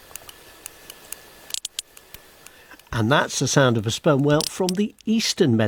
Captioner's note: whale clicking